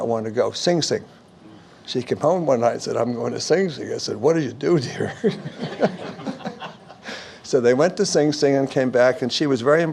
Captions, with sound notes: would really not wanna go; Sing Sing. She came home one night and said "I'm going to Sing Sing" I said "what'll you do there?" (laughs) (audience Laughs) So they went to Sing Sing and came back